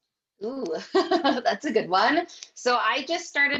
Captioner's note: chuckles